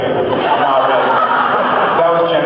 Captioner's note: laughs